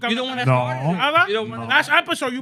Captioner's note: speaking In Foreign Language